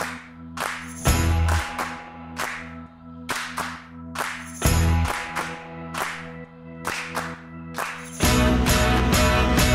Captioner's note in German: Beifall